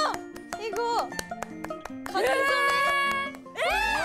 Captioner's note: applause